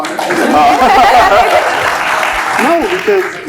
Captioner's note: laughs